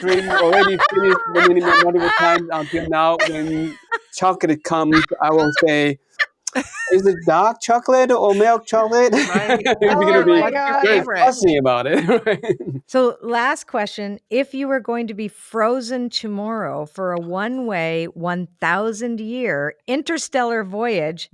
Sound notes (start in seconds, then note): 8.4 laughs